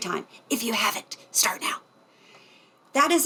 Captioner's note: whispering